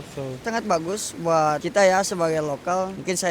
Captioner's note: more crowds